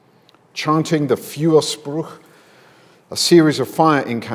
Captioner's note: speaks in German